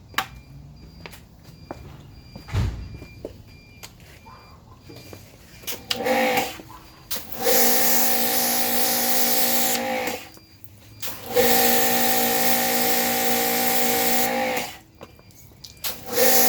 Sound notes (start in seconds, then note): 6.2 motor whirring; 6.2 water spraying